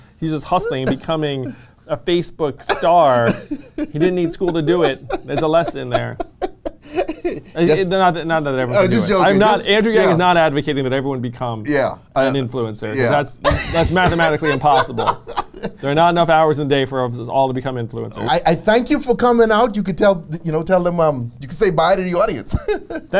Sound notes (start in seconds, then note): 2.6 laughs; 13.4 laughs